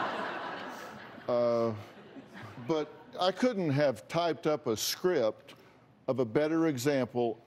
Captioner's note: laughter